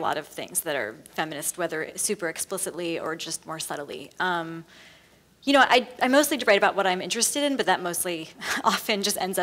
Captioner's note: laughs